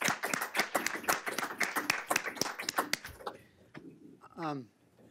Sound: audience clapping

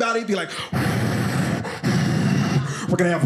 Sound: makes wind noises

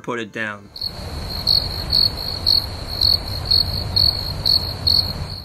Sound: crickets chirping

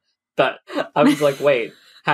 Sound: laughs

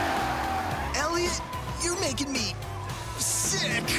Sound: tires squealing

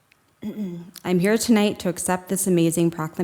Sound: clears throat

